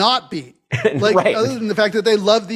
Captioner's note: laugh